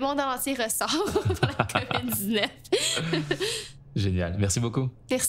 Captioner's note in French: rires